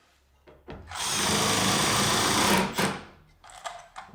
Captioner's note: drill whirring